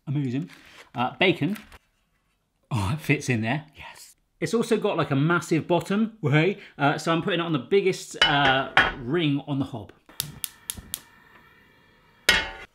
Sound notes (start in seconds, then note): none